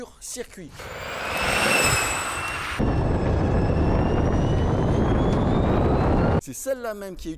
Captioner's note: electric motor sound